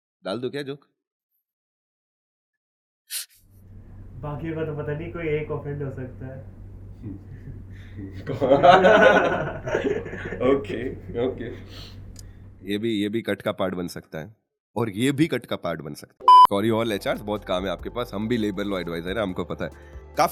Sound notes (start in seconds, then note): 8.4 laughing